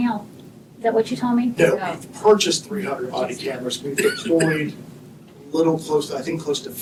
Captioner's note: clears throat